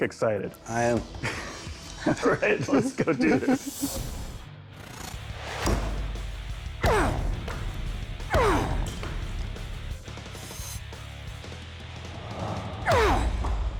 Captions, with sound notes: I am. [laughter] All right. Let's go do this. [grunting]